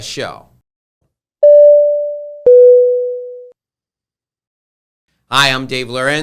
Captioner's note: electronic tone ringing